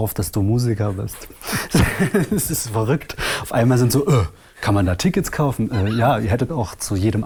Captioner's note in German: lacht